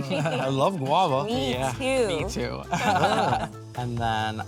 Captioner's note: chuckles